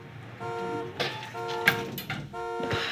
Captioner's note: car alarm